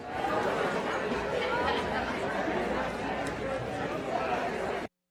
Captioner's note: audience mumbling